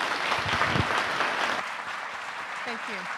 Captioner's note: audience applauding